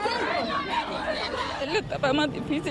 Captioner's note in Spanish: gritos